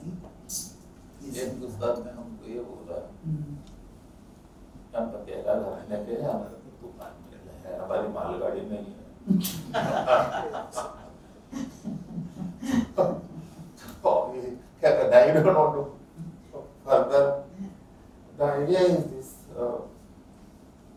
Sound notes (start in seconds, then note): 11.9 laughs